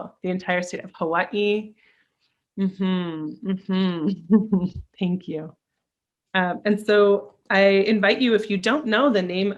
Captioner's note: mm hmm, mm hmm